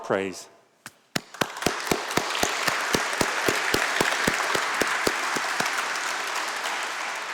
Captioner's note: applause